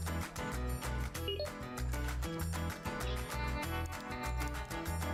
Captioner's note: computer dings